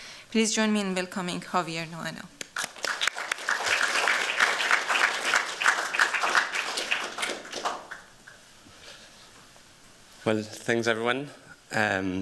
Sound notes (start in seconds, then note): 2.4 applause